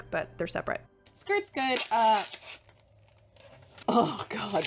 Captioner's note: package rustling